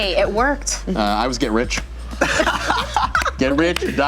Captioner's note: laughter